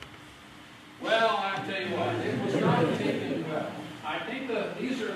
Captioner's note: laughter